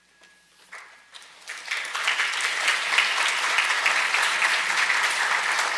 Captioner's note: audience applauds